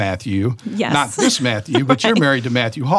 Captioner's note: chuckles